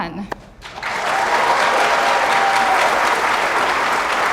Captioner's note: audience applauding